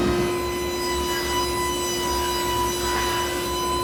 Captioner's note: whirring